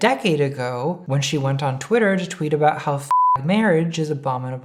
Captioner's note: beep